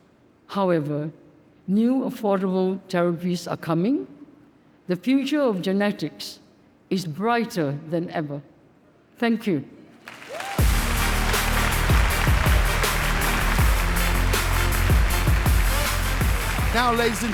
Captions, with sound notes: However, new affordable therapies are coming. The future of genetics is brighter than ever. Thank you. (audience cheers and applauds) (warm upbeat music) - Now, ladies and gentlemen,